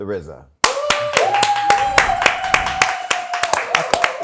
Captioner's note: cheering